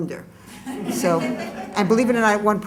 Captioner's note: laughter